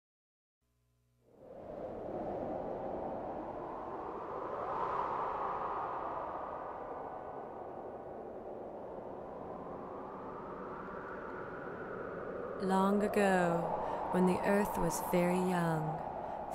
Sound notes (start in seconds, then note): 1.3 wind blowing